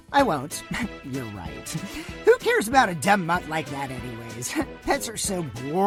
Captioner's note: scoff